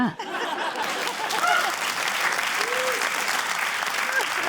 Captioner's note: laughter, applause